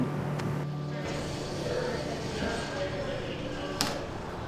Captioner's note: background chatter